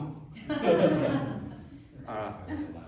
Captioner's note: laughter